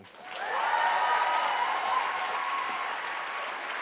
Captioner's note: applauding